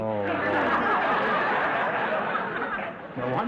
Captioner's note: audience laughter